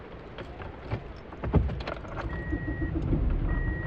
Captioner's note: keys jingle, engine starts